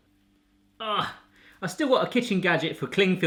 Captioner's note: grunts